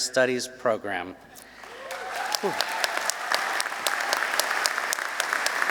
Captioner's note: applause